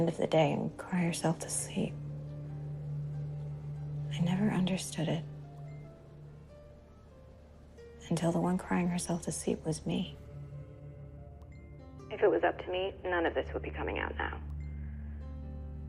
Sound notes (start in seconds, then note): none